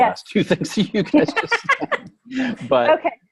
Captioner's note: laughing